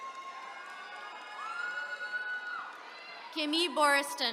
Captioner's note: attendees cheering